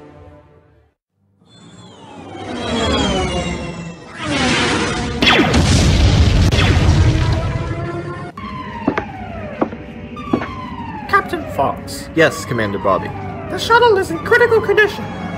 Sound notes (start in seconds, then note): 1.4 spaceship and laser sounds